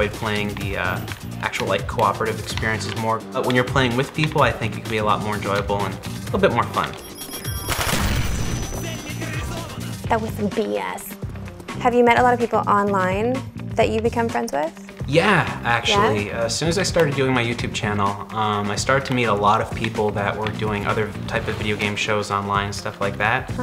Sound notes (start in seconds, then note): 7.6 explosion; 7.7 machine gun fire